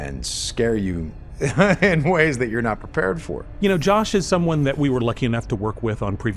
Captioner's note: laughs